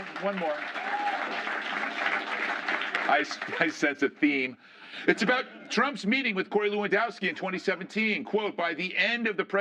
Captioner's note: laughter